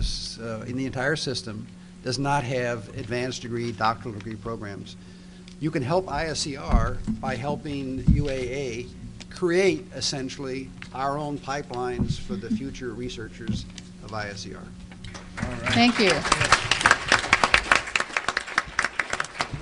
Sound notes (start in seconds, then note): 15.1 applause